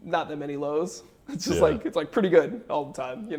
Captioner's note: laughs